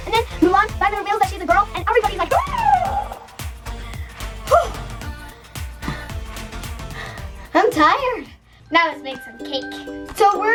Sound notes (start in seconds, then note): 3.8 gasp